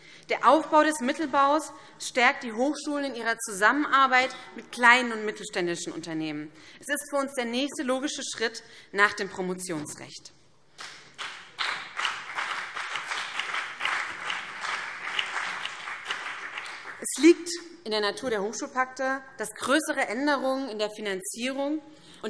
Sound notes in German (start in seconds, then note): 10.8 Beifall BÜNDNIS 90/DIE GRÜNEN und vereinzelt CDU